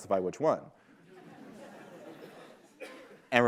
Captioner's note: laughter